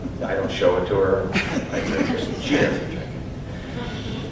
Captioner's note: audience chuckles